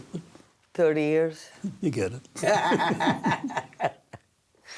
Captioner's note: laughs